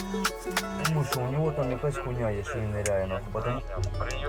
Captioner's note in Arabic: الصوت المنطوق الأوكراني